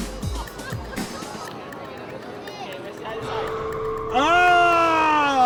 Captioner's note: audience chattering